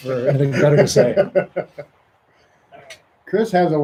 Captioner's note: laughs